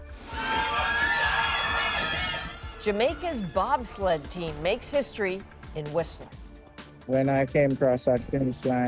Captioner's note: cheers and Applause